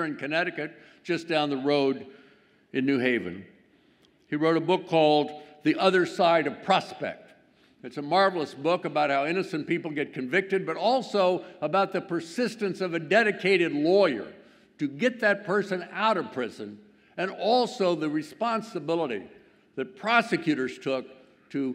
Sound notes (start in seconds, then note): none